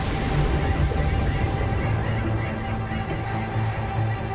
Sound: waves crash; birds chirping

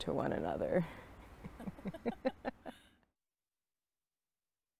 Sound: giggles

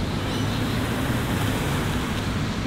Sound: car passing

